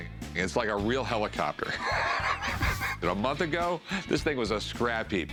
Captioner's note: laughs